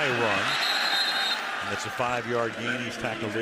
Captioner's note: whistle